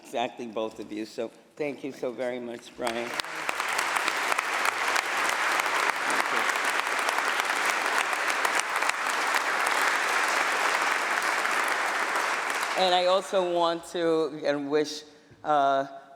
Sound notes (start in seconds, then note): 2.8 applause